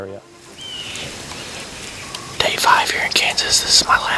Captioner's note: whispering